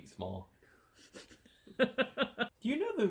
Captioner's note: laughs